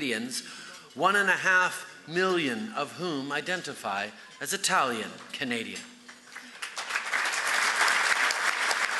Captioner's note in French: Applaudissements